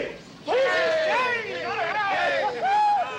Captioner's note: men cheering